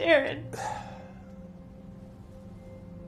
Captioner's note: sighing